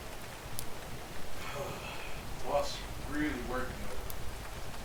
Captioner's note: third deep sigh